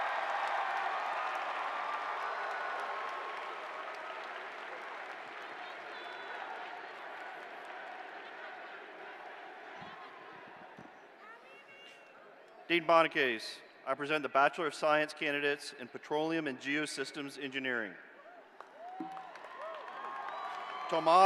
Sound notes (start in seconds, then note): 4.9 cheers and applause